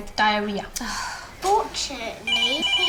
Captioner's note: sighs